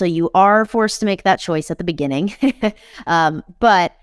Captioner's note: chuckles